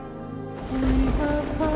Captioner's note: thunder crashing